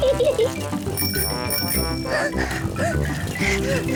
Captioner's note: rings bell and pants; giggles; chuckles